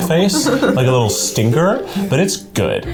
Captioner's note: laughs